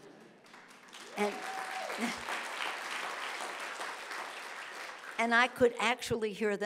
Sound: audience cheering

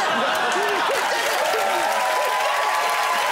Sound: audience laughs

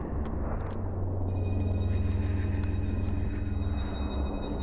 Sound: suspenseful music; scratching

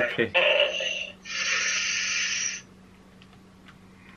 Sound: breathes in sharply

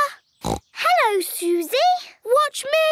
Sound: snorts

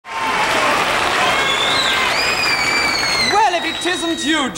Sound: audience applauds

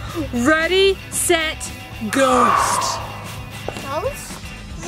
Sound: air whooshing

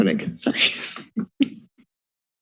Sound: laughs

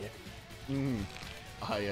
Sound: chokes, tugs at collar; nervous

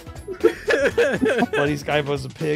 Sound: laughter

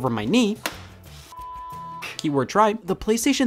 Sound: beep

